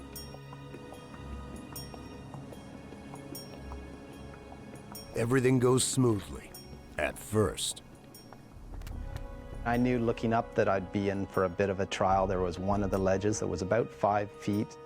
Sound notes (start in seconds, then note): 3.0 voiceover; 8.9 slow tempo music